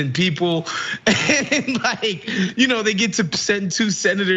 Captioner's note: laugh